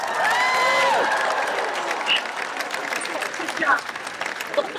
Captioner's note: audience applauds and cheers